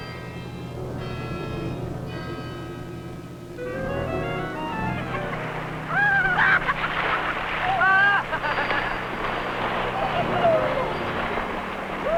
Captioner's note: laughter